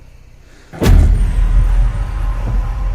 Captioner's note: head thudding; slow dramatic music